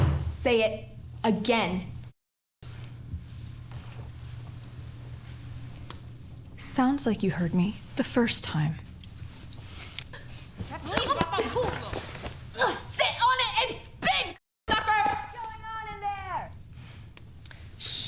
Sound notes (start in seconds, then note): 10.9 Kathleen grunting